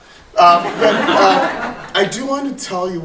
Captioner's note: audience laughing